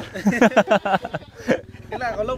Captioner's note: laughter